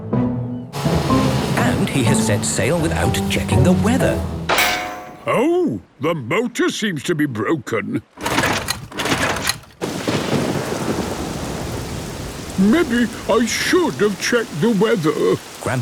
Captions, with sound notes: And has set sail without checking the weather! - Oh. The motor seems to be broken! (engine struggling) Maybe I should have checked the weather.